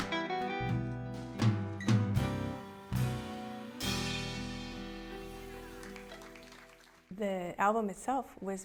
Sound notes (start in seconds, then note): 5.7 clapping